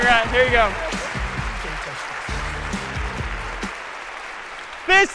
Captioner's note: applause